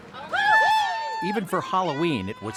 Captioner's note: cheering and screaming